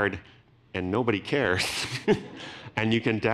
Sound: laughs

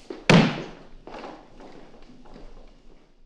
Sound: loud thud

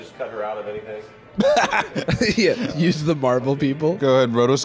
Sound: laughs

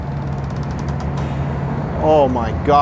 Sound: boat creaks

